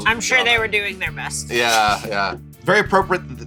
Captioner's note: laughs